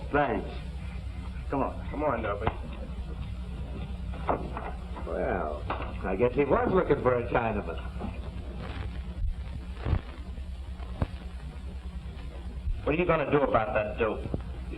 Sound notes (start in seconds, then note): none